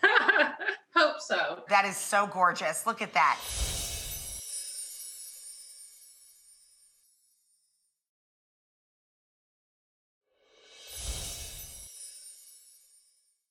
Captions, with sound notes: (chuckles) Hope so. That is so gorgeous. Look at that. (chimes tinkling) (chimes tinkling)